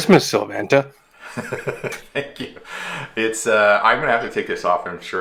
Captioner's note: laughing altogether